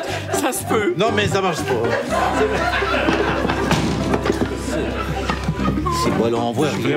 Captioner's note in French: rires; rires